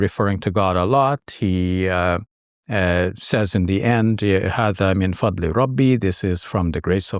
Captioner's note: speaks in foreign language